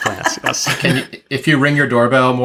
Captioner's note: laughs